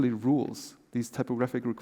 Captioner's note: none